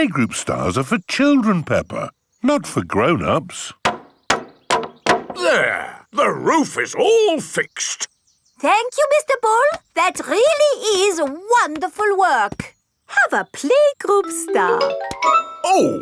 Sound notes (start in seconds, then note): 3.8 hammering